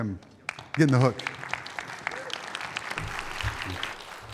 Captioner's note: audience clapping